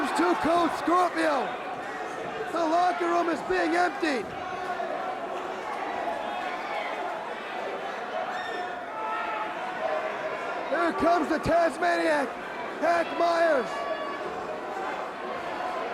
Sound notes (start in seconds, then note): 5.4 crowd cheering; 14.9 crowd chatter